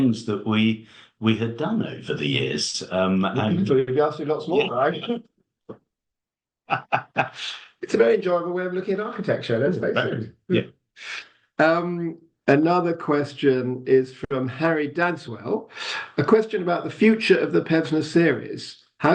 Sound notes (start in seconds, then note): 6.7 laughs